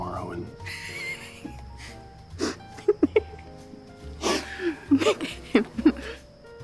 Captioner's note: laughing